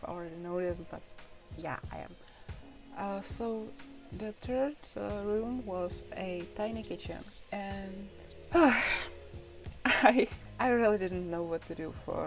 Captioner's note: sighs